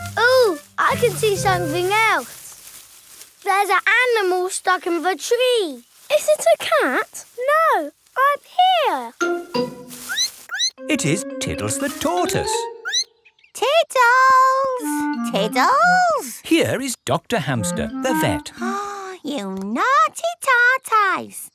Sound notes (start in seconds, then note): 9.8 squeaks; 12.8 squeaks; 18.5 gasps